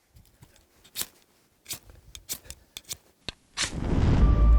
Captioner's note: cutting sounds